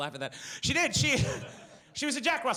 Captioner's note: laughs